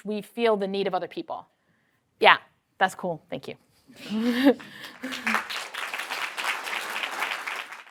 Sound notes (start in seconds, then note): 4.0 chuckles; 4.4 applause